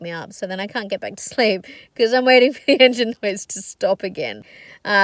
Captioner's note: laughing